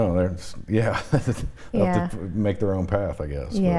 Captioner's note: chuckles